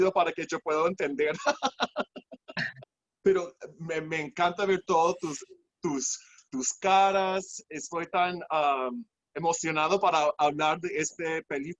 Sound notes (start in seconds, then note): 1.3 laughs